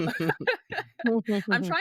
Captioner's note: both laughing